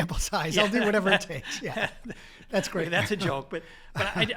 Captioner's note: laugh